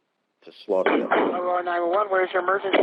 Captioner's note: gunshots